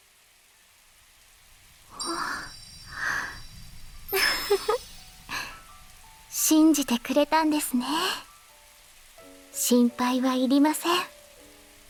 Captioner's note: laughs